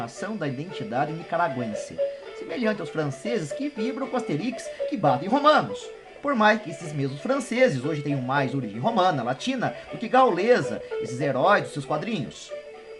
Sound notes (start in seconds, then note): 9.8 Latin